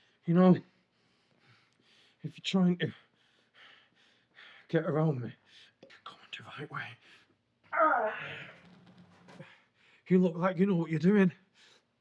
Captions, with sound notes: - You know, if you're trying to get around me, you're coming the right way. (groans) You look like you know what you're doing.